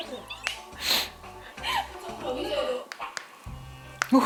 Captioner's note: suddenly bursts out laughing